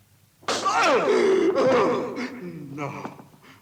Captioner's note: hard thud; Jeronimus groans